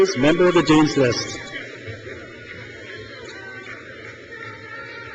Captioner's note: crowd cheers